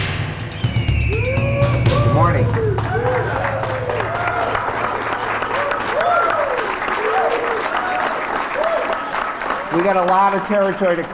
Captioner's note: applause and cheers